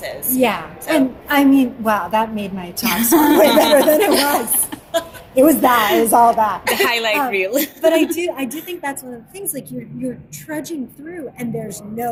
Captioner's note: laughter